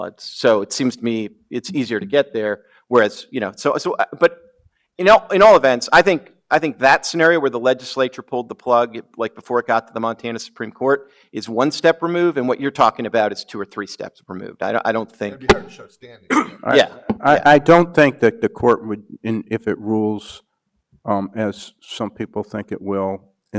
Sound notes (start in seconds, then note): 15.4 speaks softly